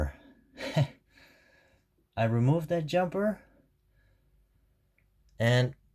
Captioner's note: giggle